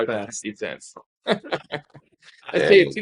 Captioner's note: laughing